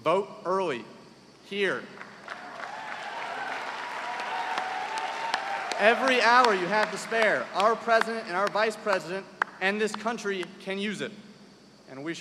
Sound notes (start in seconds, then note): 2.2 cheers and applause